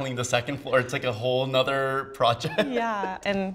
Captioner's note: laughs